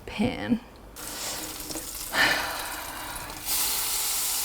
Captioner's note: oil sizzling